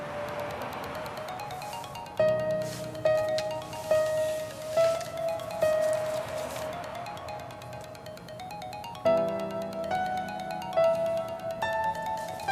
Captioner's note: mobile ringing